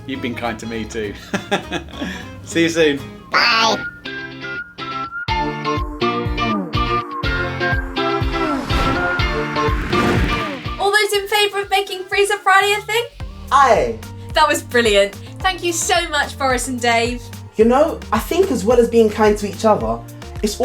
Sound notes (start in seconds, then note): 1.2 laughs; 3.3 upbeat music